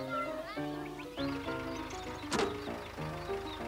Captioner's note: engine running